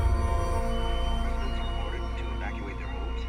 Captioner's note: male voice over radio with shrill noise